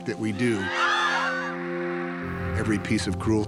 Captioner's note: all scream